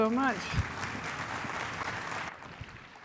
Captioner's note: applause